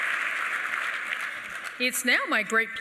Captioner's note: applause